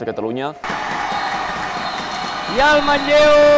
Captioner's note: fans cheering and shouting